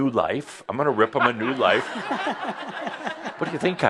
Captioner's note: laughter